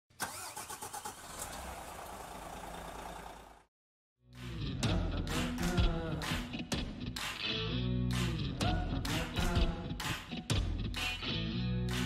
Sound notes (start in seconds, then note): 0.3 motor revving; 4.3 upbeat music